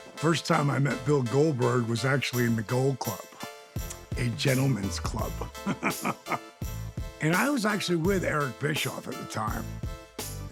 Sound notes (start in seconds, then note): 5.5 laugh